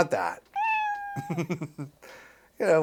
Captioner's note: cat meows